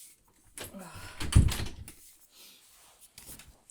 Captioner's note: Hana sighs; door clicks shut